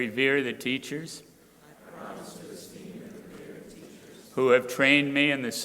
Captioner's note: crowd repeating